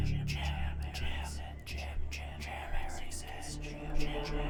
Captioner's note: voices whispering